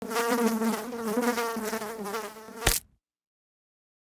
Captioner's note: fly buzzing; fly splatting